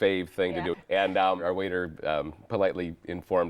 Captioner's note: laughing